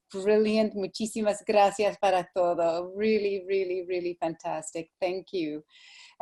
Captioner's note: speaking spanish